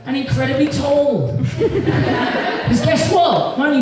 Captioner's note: audience Laughs